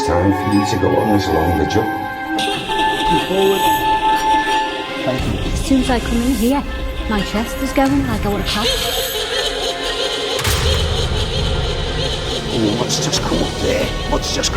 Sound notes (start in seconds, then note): 2.3 sinister laughing; 8.6 sinister laughing